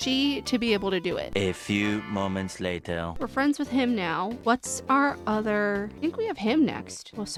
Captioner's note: french accented narrator voice